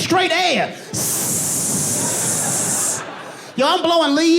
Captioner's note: audience laughing